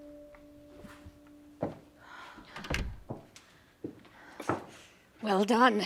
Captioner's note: hoarsely